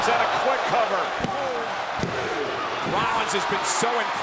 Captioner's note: hands thudding